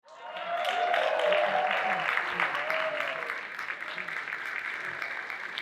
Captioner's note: audience cheering and applauding